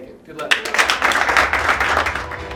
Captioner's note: clapping